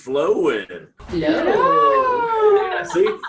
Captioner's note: exclaiming